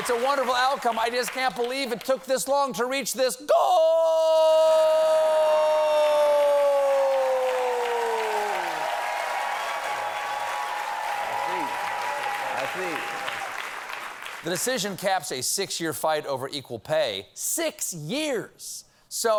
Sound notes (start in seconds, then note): 7.7 cheers and applause